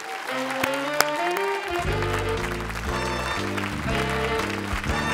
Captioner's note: applause